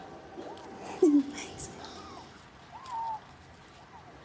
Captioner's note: bird squeaks